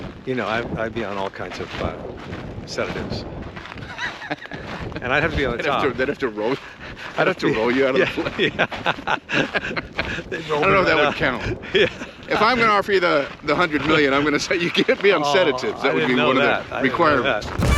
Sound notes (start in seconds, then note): 3.8 Brian laughs; 8.0 both laugh